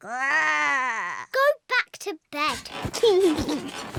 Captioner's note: laughs